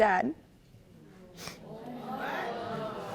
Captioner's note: sniffles